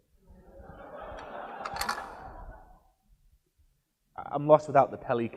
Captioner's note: audience laughs